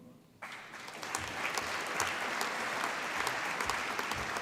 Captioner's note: applause